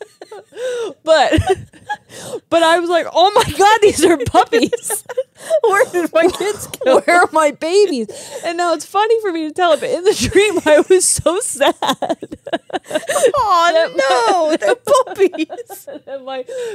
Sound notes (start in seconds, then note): 0.0 laugh; 11.6 laugh; 15.6 laughs